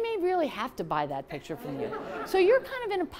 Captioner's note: laughter